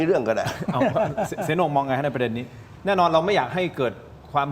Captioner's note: laughs